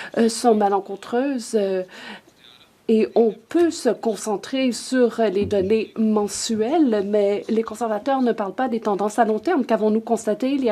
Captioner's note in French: voix de l'interprète